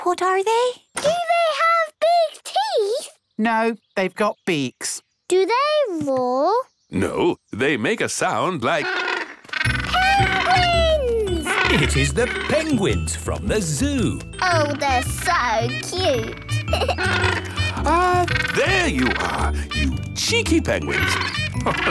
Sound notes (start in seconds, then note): 11.3 honking; 15.6 honking; 16.4 giggles